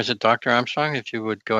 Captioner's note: laughter